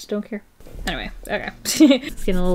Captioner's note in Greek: Γέλια